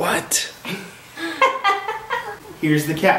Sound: laughs

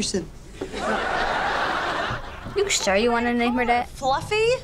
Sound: audience laughs

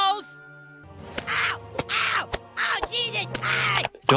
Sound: Eric screaming

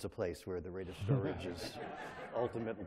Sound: laughter

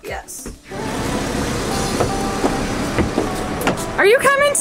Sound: van engine running

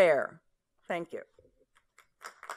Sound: applause

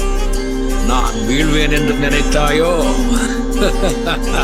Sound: tamil movie dialogue in background

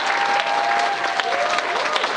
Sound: applause

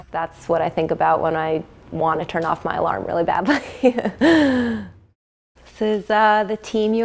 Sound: laughing

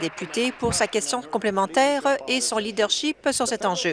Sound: some Applause

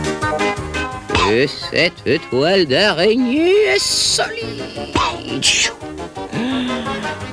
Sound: wheezing

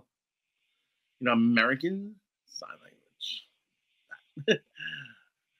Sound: laughs

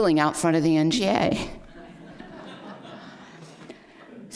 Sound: laughter

